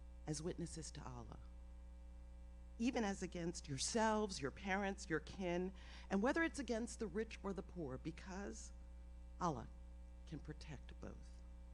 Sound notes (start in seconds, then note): none